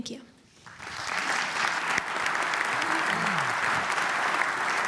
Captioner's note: applause